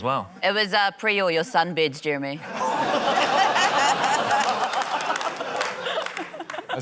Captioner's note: laughter, scattered applause